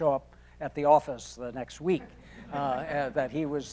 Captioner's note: audience laughing